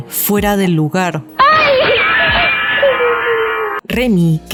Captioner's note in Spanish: Grito de dolor